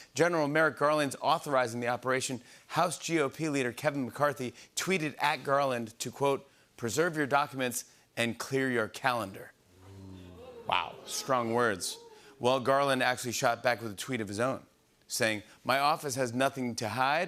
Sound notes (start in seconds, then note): 9.7 audience "Oohs"